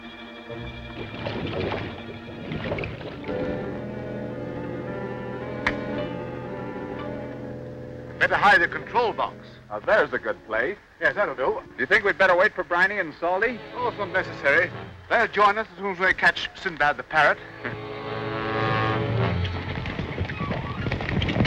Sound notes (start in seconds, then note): 0.4 water gurgles; 3.0 suspenseful instrumental music; 17.4 foreboding instrumental music